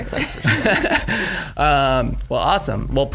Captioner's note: giggles; chuckles